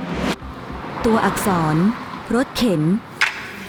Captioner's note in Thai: เสียงรถวิ่ง